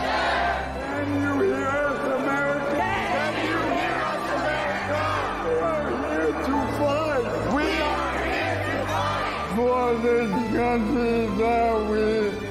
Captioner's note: chanting